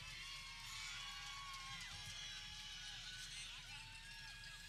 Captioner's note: people cheering